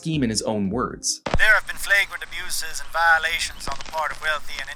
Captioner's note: old timey static begins